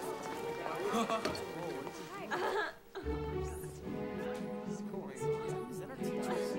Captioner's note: students chattering; curious music